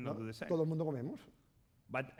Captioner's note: speaking spanish